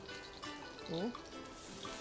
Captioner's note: sizzles